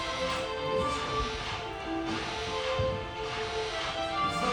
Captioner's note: continuous flashbangs